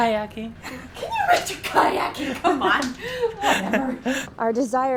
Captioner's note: laughs